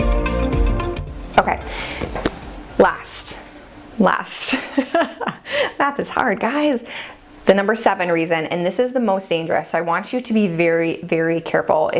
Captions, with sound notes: Okay, last, last. (laughs) Math is hard, guys. The number seven reason and this is the most dangerous, I want you to be very, very careful